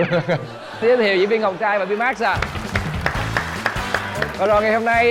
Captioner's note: applause